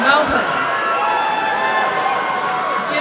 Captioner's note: applause and cheering